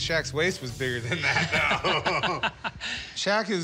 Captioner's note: laughs